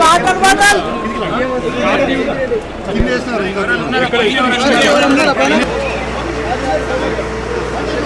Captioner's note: indistinct chatter from a group of people